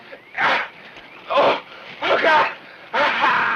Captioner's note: groans